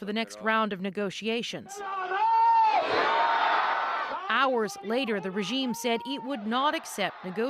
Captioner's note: speaking alternate language